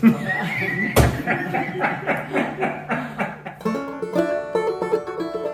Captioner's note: laughter; upbeat Music